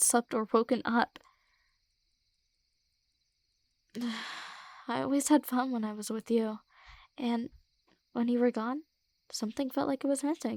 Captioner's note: sigh